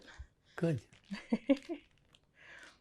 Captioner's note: laughing